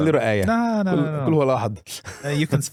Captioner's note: speaking in foreign language